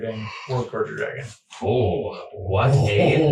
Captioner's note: gasps